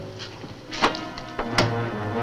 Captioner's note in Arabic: طقطقة القفل; تستمر الموسيقى المظلمة